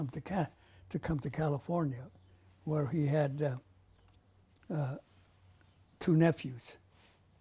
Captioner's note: pauses for 3 seconds